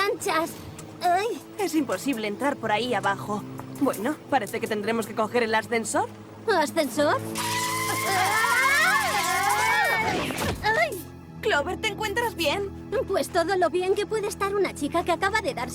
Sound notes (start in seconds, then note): 7.3 shrieking